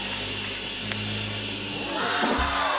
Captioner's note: cheers and applause; egg cracks; cheers and applause